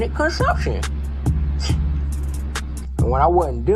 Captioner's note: sarcastically; scoff